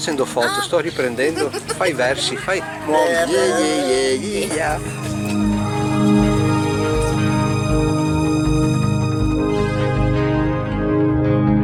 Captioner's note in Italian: Applauso